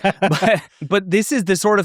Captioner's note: laughs